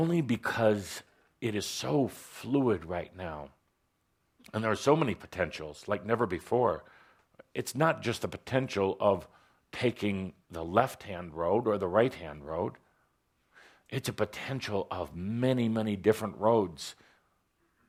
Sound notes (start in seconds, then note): none